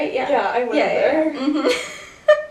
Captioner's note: laughs